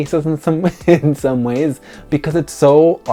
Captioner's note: chuckles